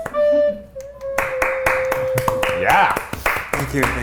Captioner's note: hands clap